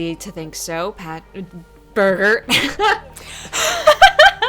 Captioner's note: laughing